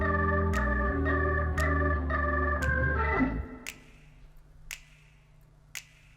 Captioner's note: jazz music; fingers snapping rhythmically